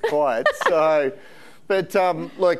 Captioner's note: laughing